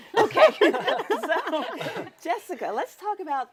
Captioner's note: panelists laughing